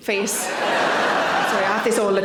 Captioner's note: audience laughing